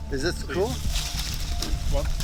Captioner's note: rustling leaves